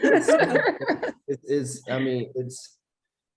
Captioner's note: laughter